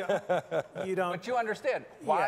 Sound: laughing

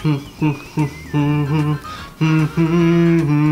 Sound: humming

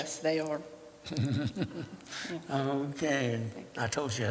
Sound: laughter

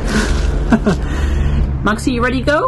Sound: laughs

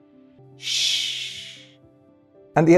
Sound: flight attendant shushes

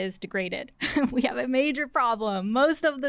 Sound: laughter

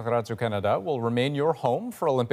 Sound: none

